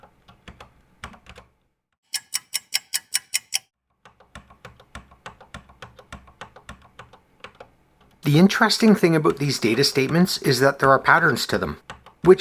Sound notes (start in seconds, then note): 2.0 ticking clock